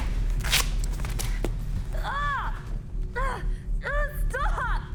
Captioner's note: Jill screams